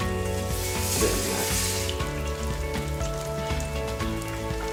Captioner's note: sizzling